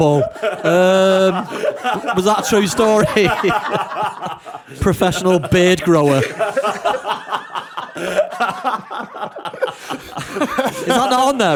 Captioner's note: laughter